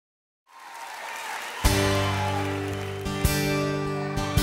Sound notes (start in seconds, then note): 0.4 applause; 1.6 slow music